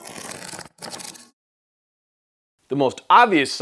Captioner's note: scrapping sound